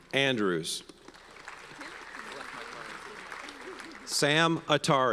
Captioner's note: audience applauds